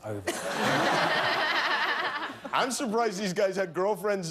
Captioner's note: laughter